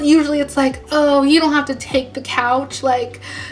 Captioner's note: sexy gasp